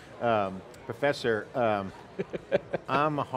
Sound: laughing

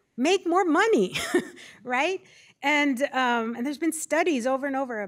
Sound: laughter

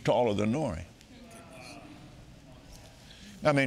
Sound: audience marveling

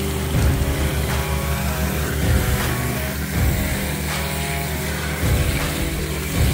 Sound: hydrovac hooving; upbeat music

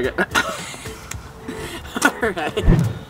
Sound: laughing

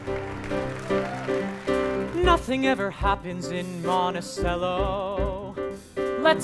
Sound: applause

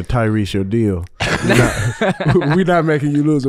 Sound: everyone laughing

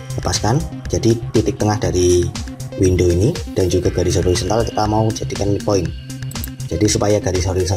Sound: click

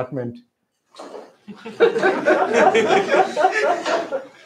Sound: laughter

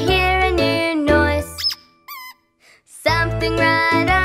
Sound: duck squeaking

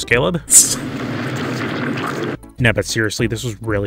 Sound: explosion

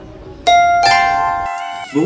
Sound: correct answer sound

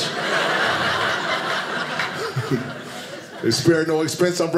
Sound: audience laughing

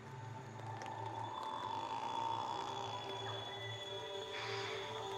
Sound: croaking

